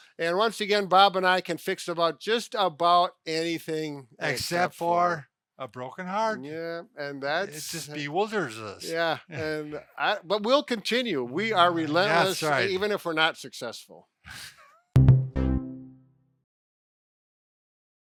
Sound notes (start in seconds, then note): 14.3 laughs; 14.9 upbeat jingle